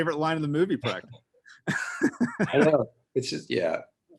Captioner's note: both laughing